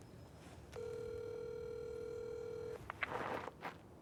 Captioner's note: phone line trilling